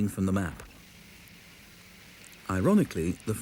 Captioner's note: tracks creak